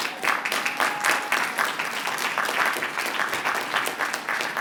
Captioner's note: applause